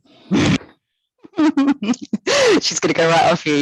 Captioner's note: laughing